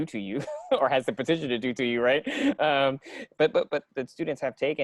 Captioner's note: laughing